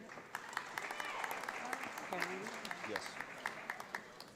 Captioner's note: audience applauds